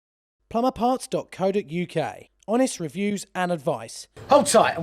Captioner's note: voiceover